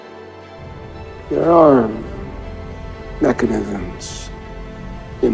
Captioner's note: voiceover